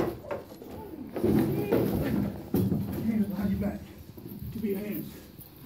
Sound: voice distorting; crashing and banging

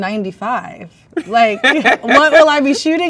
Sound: man laughs

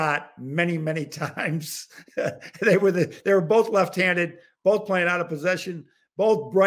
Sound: chuckle

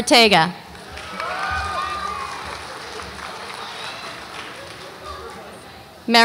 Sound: audience applauds and cheers

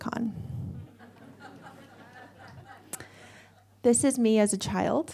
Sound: audience laughs

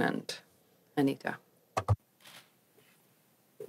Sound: speaking french

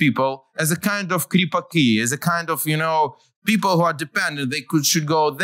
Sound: non-english

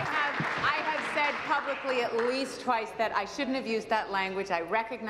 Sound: applause

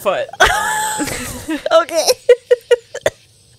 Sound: laughs

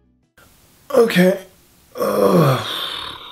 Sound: groan

